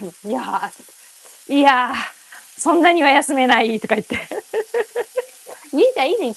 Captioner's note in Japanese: 笑い